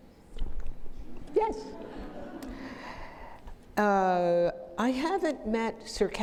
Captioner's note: audience laughing